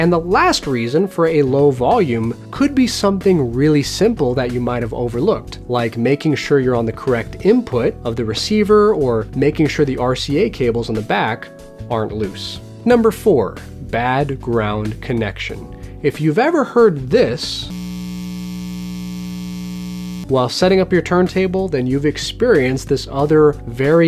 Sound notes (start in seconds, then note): 17.7 loud hum